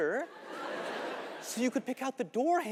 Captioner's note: audience laughing